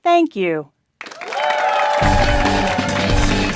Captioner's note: applause; upbeat music